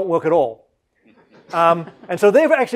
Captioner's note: laugh